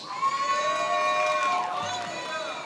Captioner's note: attendees applauding and cheering